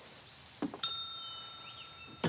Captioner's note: ding